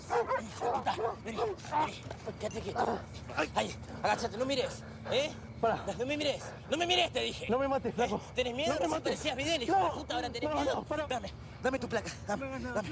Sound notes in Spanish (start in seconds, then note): 4.5 policía jadea